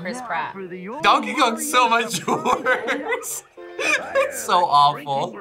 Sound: laughs

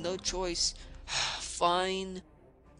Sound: sigh

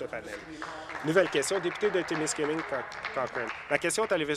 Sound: applause

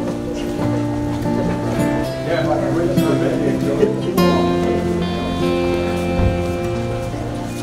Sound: echoy chatting

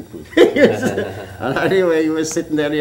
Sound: laughter

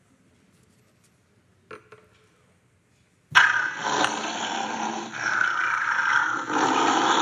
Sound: animal growling

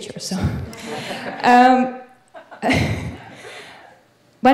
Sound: audience laughing

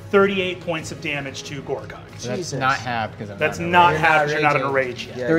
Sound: none

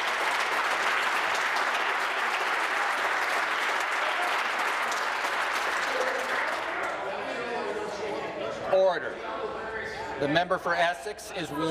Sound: applause

